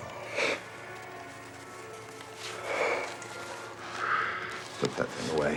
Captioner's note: Richard inhales and exhales